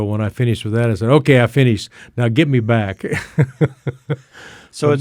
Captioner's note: laughs